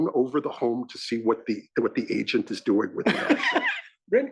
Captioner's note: laugh